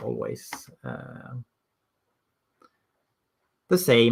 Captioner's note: keyboard clacking